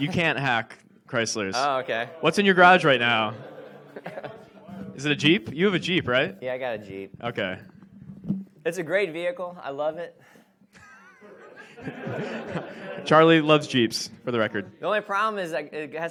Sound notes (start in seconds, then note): 10.8 audience laughs